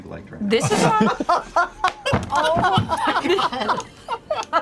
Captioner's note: laughter